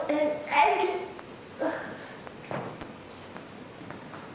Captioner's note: sighs